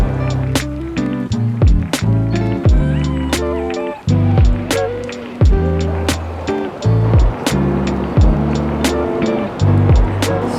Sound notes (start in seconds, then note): 7.0 train rumbling